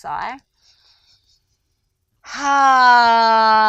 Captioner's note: inhales deeply